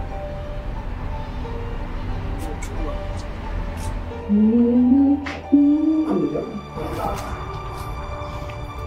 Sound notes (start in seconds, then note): 1.5 mysterious music; 4.2 Erica humming